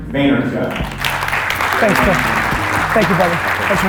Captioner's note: applause